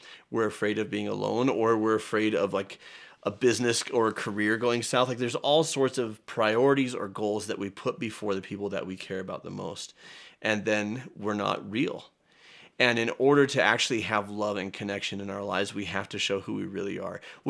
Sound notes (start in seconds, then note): none